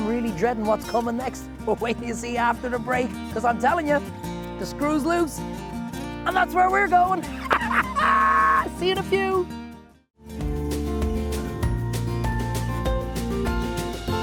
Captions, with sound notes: And I'm really dreading what's coming next, but wait till you see after the break 'cause I'm telling you, the screw's loose and that's where we're going (laughing). See you in a few. (upbeat music)